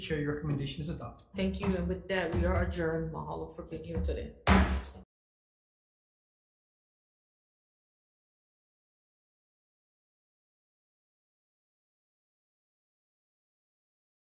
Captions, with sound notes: Chair, your recommendation is adopted. - Thank you. And with that we are adjourned. Mahalo for being here today. (gavel bangs)